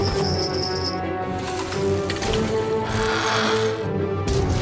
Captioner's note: bells jingling